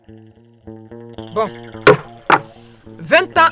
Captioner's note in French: coup de marteau